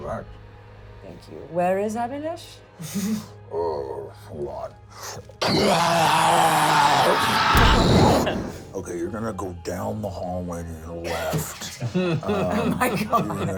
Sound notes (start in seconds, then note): 5.4 screams; 11.8 laughs